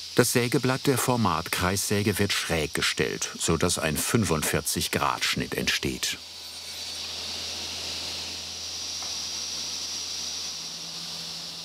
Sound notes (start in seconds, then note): 8.9 high-pitched whirring